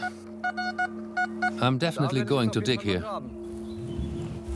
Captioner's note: detector beeps